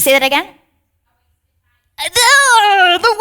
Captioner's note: participant faintly speaking